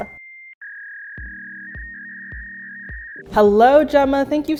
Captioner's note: dial up internet buzzing